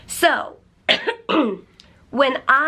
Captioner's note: coughs